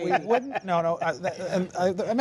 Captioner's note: laughter